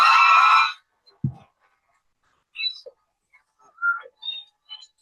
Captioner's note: cheering